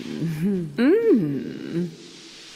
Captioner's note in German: Sinnliches Stöhnen